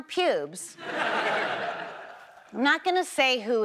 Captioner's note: audience laughs